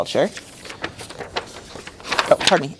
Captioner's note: paper rustling